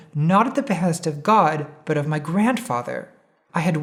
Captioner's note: none